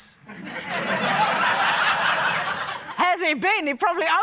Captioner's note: laughter